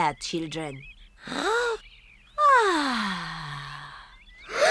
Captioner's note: breathes deeply; all breathe deeply